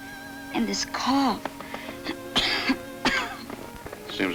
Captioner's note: coughs